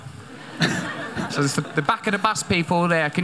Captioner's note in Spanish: Risa de la audiencia